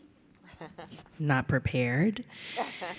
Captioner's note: laughs